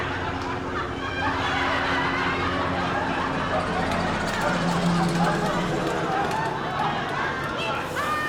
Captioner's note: laughter